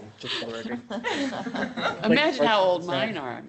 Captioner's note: laughing